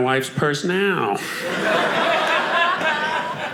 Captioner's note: audience laughing